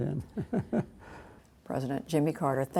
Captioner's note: laughter